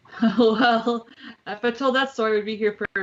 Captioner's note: laughs